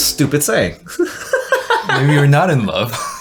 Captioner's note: laughs